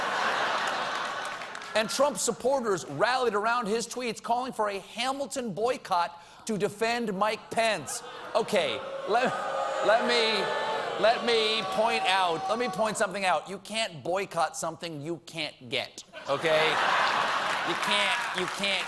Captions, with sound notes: ( LAUGHTER ) AND TRUMP SUPPORTERS RALLIED AROUND HIS TWEETS, CALLING FOR A 'HAMILTON' BOYCOTT TO DEFEND MIKE PENCE. ( AUDIENCE BOOING ) OKAY, LET ME POINT OUT THAT YOU CAN'T BOYCOTT SOMETHING YOU CAN'T GET.